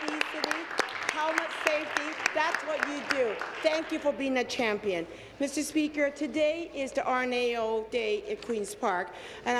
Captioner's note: applause